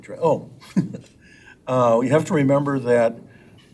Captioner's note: chuckles